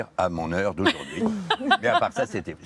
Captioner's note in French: rires